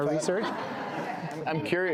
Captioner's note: laughter